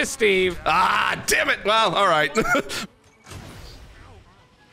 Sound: laughs

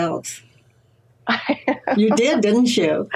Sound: laughs

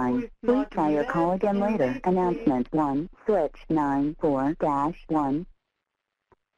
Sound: recorded Voice

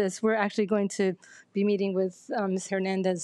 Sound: none

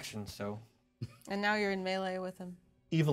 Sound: speaker chuckles

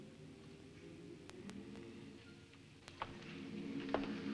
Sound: humming Continues

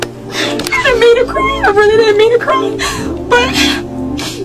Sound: sniffles

